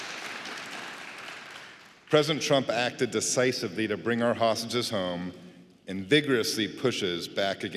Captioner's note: applause